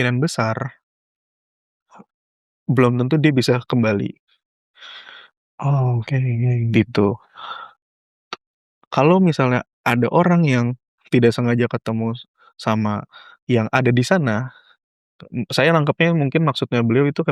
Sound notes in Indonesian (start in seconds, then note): 4.8 terkesiap; 7.4 menghela napas